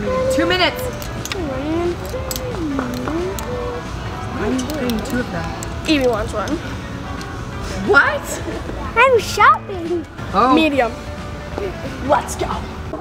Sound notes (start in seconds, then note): 1.6 humming